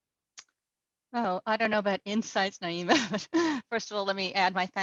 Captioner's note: laughs